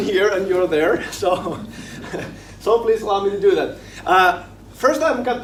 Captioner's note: laughing